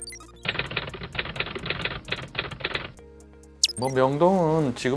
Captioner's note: typing sound